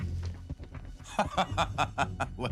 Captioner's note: laughing